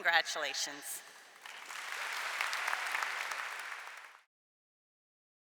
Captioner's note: applause